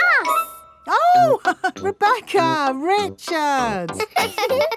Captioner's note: laughs; both laughing; chuckles